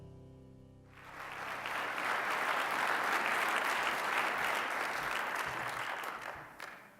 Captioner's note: inspiring music; applause